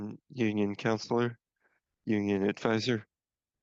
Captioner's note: speaking French